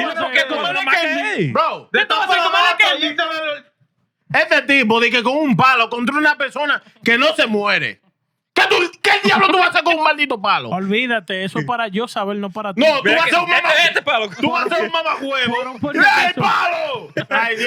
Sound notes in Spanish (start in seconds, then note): 1.9 Hablando en idioma extranjero; 1.9 Riendo